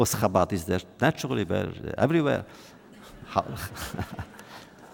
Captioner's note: laughter